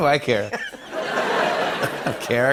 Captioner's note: laughter